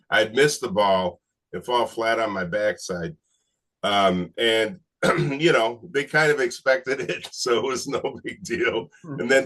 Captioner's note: chuckles